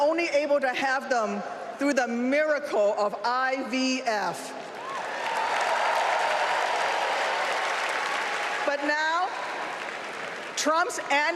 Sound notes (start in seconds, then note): 0.8 applause